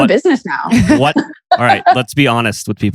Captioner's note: laughs